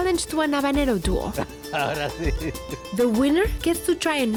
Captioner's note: speaking Spanish